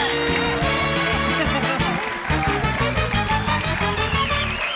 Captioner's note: laughs